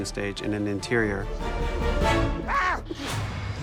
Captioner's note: yelps